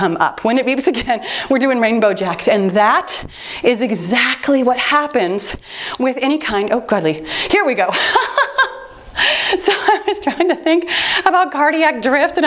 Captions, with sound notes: When it beeps again, we're doing rainbow jacks and that is exactly what happens (timer beeps) with any kind, Oh godly. Here we go. (laughing) I was trying to think about cardiac drift